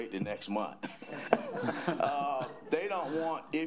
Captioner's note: laughter